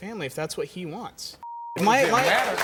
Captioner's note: beep; crowd applauds